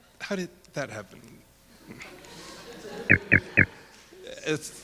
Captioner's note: audience laughing